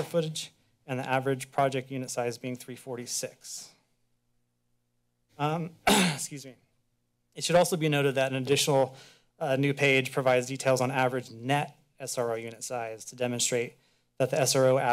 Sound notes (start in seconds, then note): 5.8 clears throat